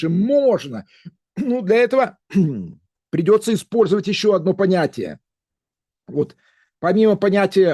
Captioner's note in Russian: откашливается